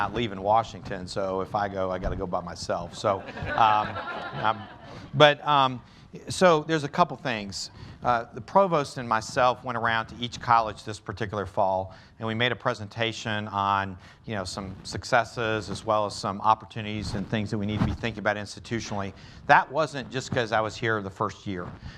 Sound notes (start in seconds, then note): 3.0 laughter